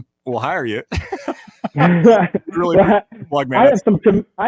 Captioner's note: both laughing